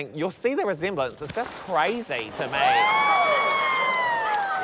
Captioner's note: screaming